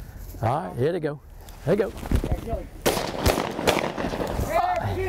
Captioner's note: gunshots firing